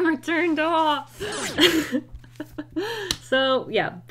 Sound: laughs

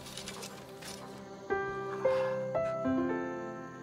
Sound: sighs

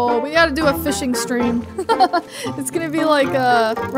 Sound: chuckling

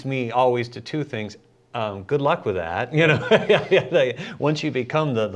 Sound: laughs

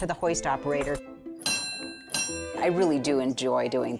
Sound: clanging

